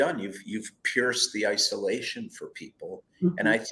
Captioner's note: none